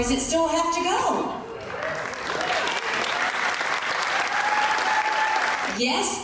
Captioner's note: supporters clapping and cheering